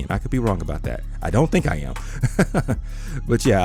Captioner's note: laughs